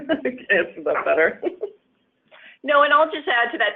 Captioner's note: laughs